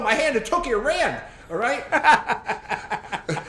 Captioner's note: laughs